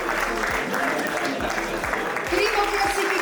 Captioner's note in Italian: applauso